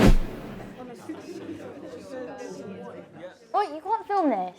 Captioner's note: students chattering